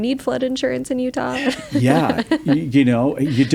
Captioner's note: laughs